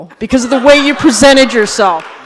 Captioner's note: laughter